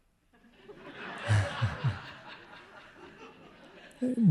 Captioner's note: audience laughing